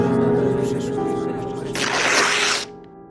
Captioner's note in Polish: trzask przedartej kartki